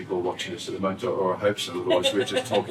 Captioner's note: laughs